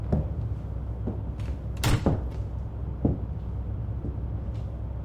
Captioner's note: door clicks